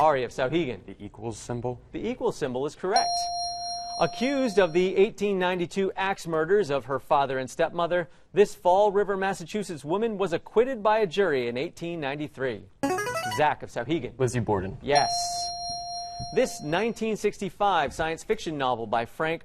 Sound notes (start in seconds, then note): 3.0 ding; 12.2 player buzzer; 14.9 ding